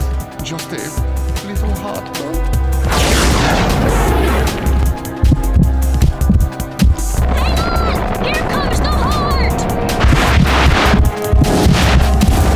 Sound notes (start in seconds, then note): 5.2 thumping